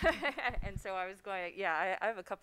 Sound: laughs

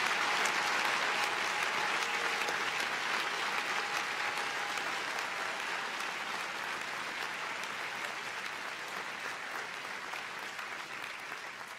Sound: applause

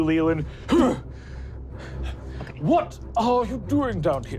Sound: grunting

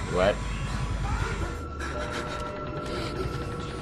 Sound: breathes heavily

